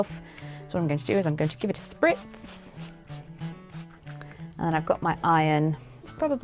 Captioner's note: water spraying